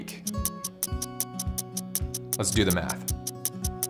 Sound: clocks ticking

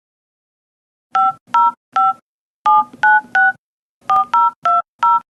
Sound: phone dial tones

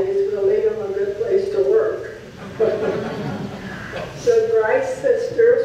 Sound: audience laughs

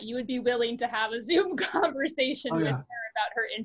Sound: laughs

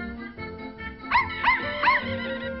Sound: bark, Bark

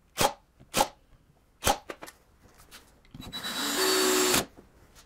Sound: drill whirring

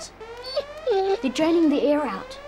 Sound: whining

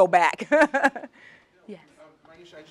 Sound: laugh

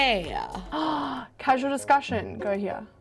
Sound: gasps

